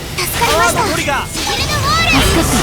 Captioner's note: effort grunt